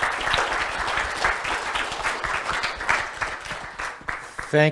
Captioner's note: applause